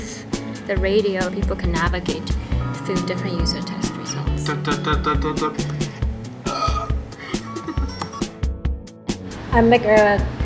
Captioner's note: sound effects